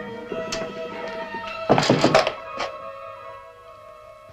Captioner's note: knock at door